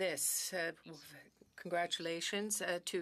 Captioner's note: speaking French